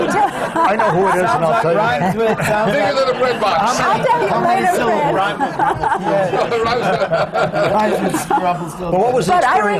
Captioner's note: laughter; laughs